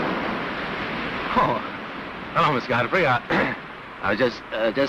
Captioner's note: coughs